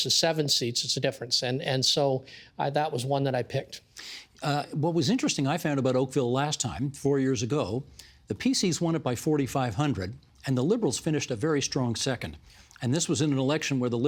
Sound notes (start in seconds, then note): none